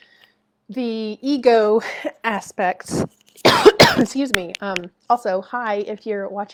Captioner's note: coughing